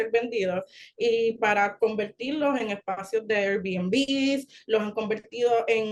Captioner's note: continues speaking Spanish